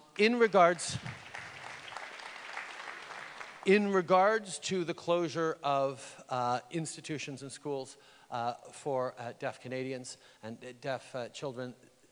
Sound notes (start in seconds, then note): 0.2 applause